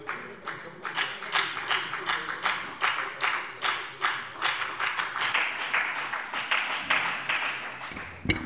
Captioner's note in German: Beifall bei der FDP